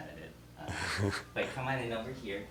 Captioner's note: laughs